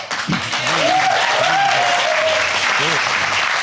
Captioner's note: audience cheering